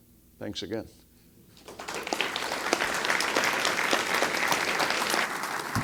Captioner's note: applause